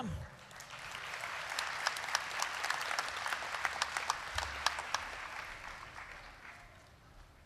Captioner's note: applause